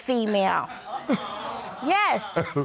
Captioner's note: chuckles